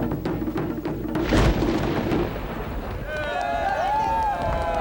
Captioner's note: thunder rumbles; everyone cheering